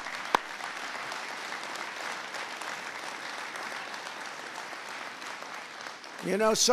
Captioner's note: applause